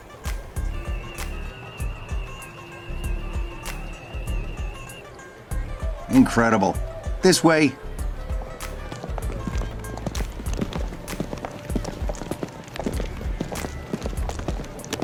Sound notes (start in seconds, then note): 0.7 tri-corder sounds